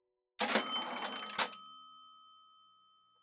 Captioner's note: cash register cha-ching